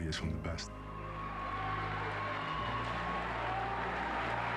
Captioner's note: crowd cheering